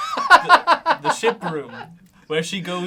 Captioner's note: laughs